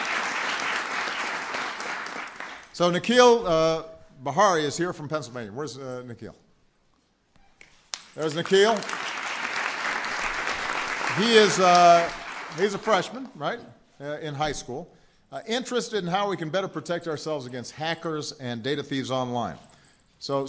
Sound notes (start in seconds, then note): 0.0 applause; 10.0 applause